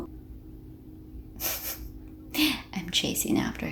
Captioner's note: laugh